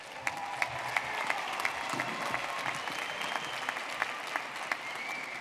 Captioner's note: audience clapping and cheering